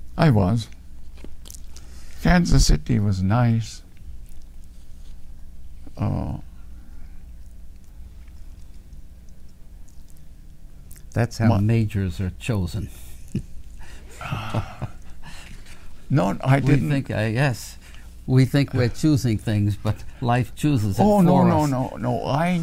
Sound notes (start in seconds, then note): 13.8 laughs